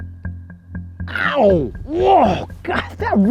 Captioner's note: groans